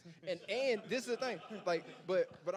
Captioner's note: panelists laughing